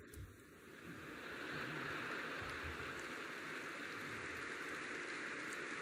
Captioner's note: laughter and applause